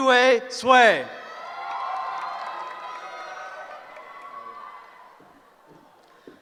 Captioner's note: cheering